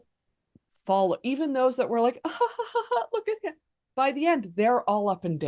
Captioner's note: laughing